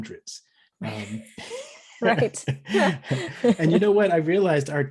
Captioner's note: laughs